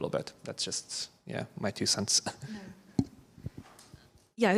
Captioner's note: chuckles